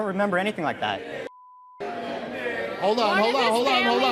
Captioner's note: audience murmurs